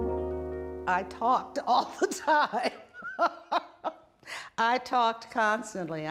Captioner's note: laughs